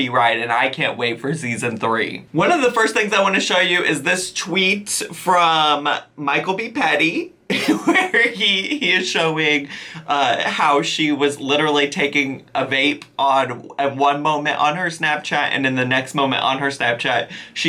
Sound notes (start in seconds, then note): 7.6 laughing